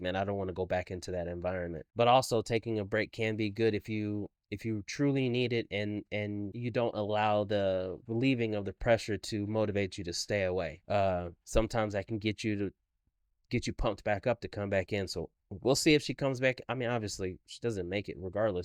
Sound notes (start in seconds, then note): none